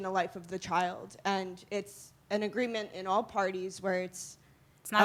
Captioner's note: none